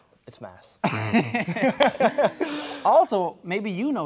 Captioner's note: laughing